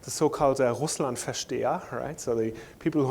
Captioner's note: speaking german